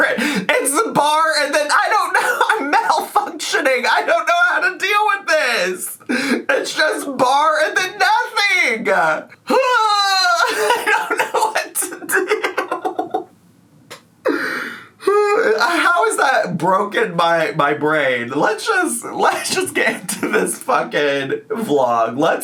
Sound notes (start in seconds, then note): 10.0 groans; 14.4 laughs